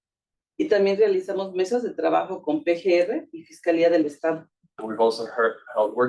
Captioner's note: speaking Spanish